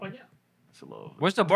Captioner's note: speaking Spanish